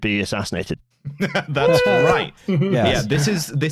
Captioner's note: chuckles